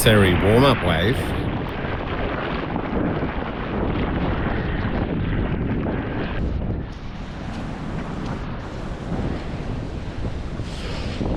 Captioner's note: wind